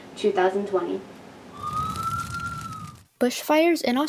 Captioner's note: flames and sirens